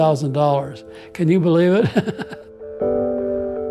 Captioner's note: laughs